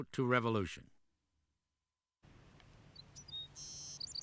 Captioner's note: bird chirping, singing